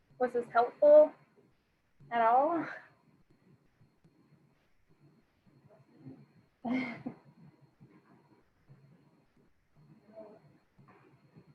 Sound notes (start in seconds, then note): 6.6 laughing